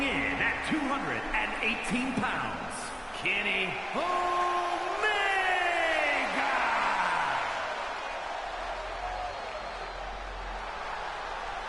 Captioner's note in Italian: Applauso